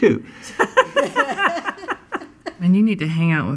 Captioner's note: laughing